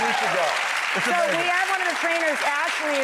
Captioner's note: audience applause